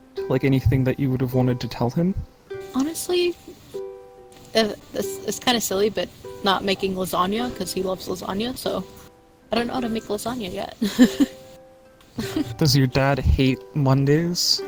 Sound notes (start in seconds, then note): 9.6 laugh